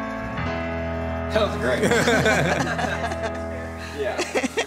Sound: both laughing; laughs

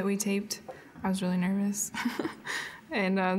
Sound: chuckling

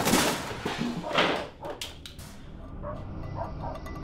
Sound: distant dogs barking

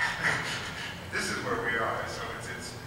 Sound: laughs

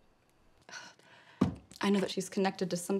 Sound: sighs

